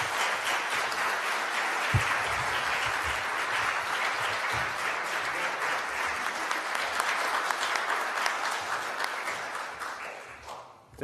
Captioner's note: applause